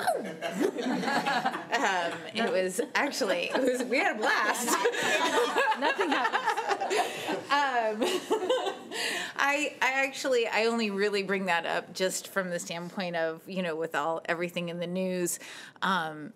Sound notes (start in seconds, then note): 0.3 all giggling; 4.6 all giggling